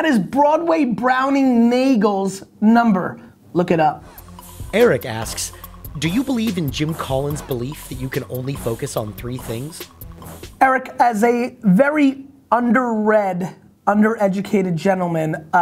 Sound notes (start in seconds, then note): 4.8 voiceover